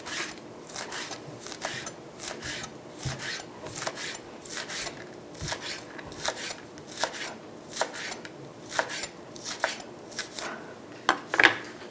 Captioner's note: chopping sounds